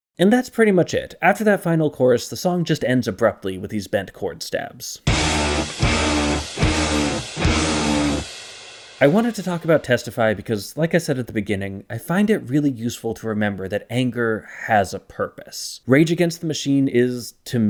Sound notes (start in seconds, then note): 5.1 bang